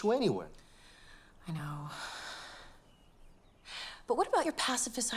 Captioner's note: sighs